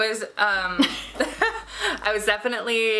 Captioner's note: both laughing